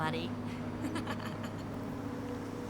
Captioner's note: laughs